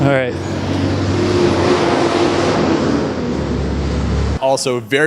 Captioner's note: traffic Noise